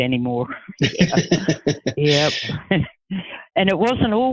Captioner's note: laughing